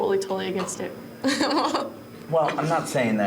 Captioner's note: laughs